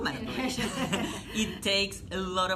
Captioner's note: laughter